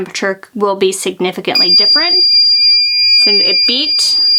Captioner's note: timer beeps